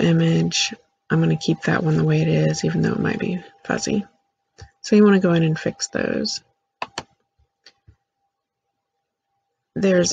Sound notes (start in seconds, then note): 7.5 click